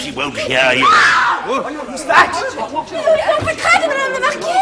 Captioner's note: woman screaming